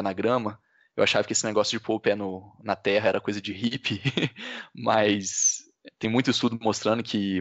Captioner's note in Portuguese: risos